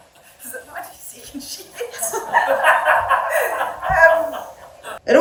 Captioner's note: audience laughing